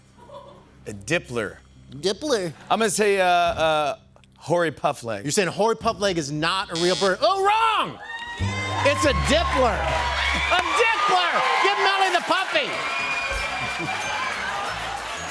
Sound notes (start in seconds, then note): 6.7 buzzer; 12.4 cheers and applause